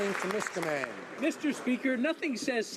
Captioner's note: some Applause